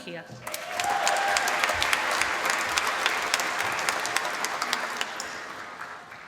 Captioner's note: applause